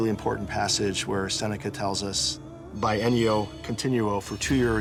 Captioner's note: non-english speech